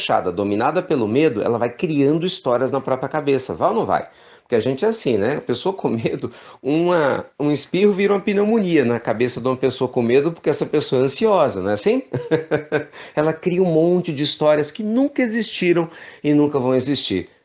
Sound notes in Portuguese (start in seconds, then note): 12.0 risos